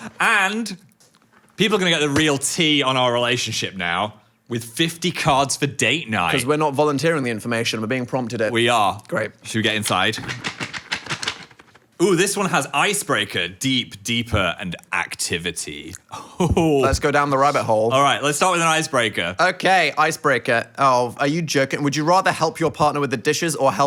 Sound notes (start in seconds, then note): 9.9 box rattles; 16.2 laughs